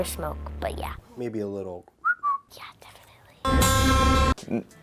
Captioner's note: whistles